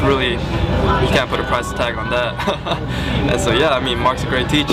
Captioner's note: laughter